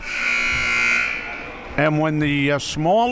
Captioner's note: buzzer rings